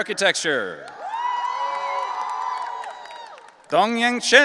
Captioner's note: audience cheering